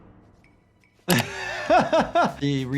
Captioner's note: laughing